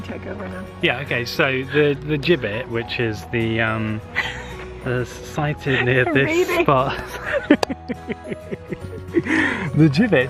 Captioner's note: laughs